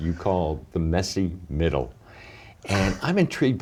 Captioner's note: laughs